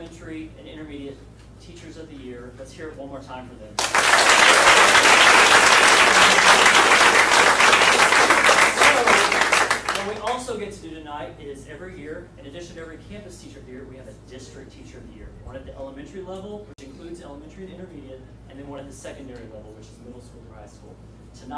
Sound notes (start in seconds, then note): 3.8 audience applauding